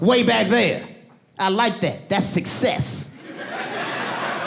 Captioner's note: audience laughing